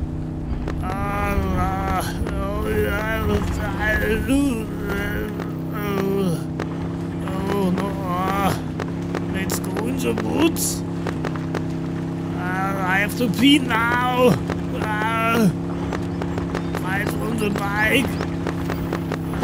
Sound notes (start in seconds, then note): 4.1 gulp